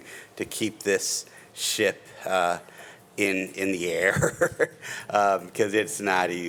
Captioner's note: chuckles